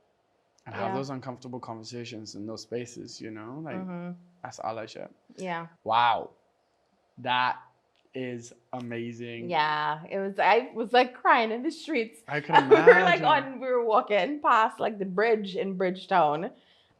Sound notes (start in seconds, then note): 12.3 laughs